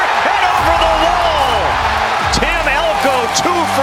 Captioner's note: cheering